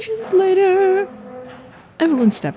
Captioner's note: chairs squeak